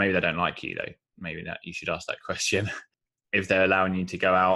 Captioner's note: laughs